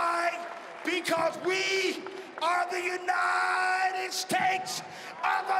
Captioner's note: cheering and applause